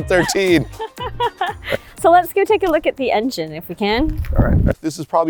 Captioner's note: laughs